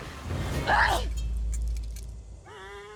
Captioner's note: yellow eagle yells